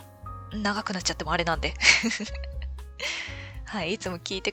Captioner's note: laughs